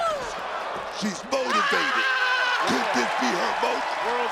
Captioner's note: Thea yelling